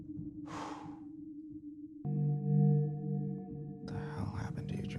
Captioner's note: Kenny sighs